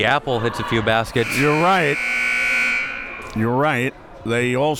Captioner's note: buzzer blares